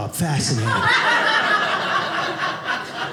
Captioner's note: audience laughing